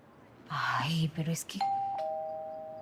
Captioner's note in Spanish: Timbre de la puerta